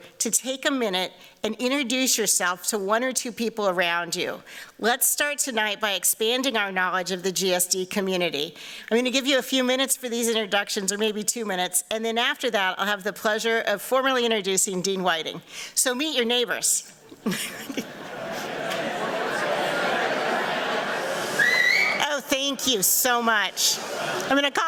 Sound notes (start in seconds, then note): 17.8 audience chatter; 21.2 whistles